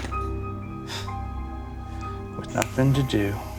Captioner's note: scoffs